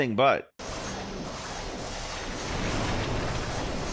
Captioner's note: shots blasting; wall crashing